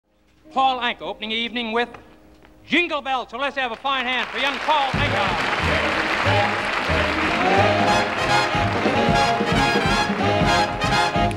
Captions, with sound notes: - Paul Anka opening the evening with "Jingle Bells" so let's have a fine hand for young Paul Anka. (audience clapping) (lively instrumental music)